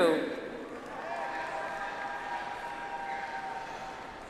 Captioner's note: audience applauds